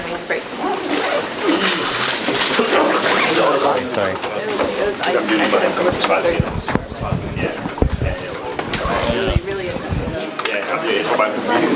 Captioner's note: background chatter